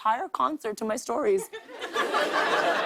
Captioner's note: laughter